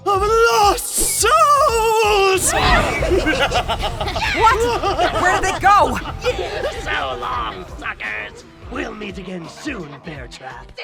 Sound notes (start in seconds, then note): 2.4 banzai rabble